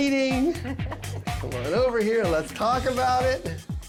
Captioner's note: laughter